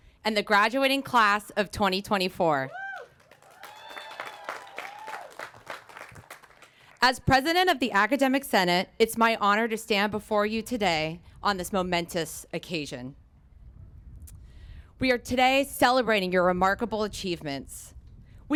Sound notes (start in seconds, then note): 2.7 applause